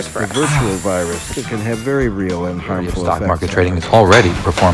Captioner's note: podcast Voice